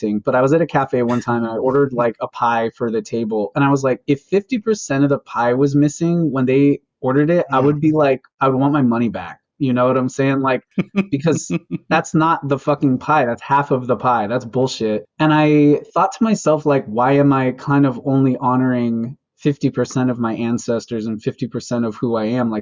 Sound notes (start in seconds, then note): 10.8 laughs